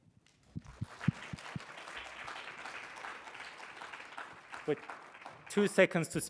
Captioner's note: congregation clapping